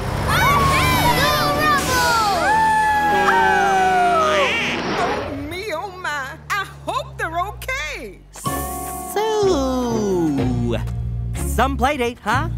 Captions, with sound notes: - Alright! - Go, Rubble! [howling] [quacking] Oh, me, oh, my. I hope they're okay. So, some play date, huh?